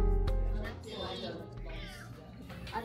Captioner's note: meow